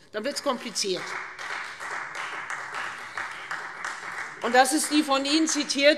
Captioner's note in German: Beifall Freie Demokraten